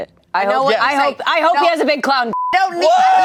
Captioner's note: beep